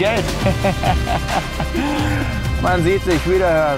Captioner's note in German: lacht